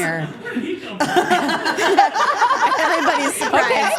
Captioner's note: group laughing